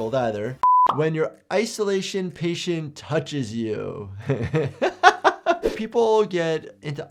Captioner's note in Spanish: risas